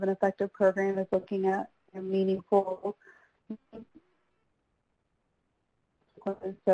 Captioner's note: feedback drowning out speech